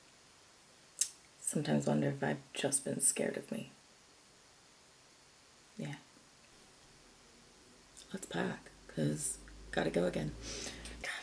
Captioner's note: clicks